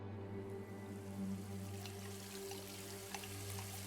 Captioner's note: water Running